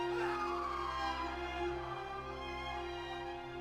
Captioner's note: screaming